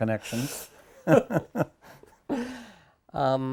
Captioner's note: both laugh